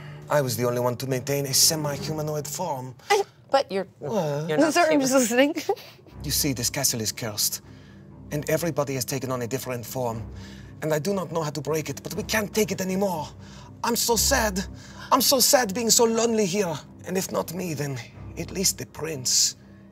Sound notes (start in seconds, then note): 2.9 laughs; 5.2 laughs